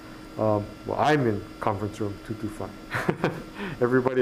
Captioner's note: laughs